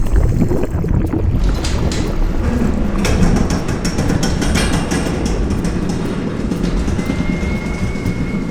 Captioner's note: heavy metal creaking